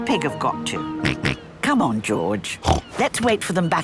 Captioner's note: George snorts; snorts